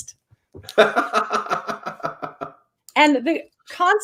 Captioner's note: laughs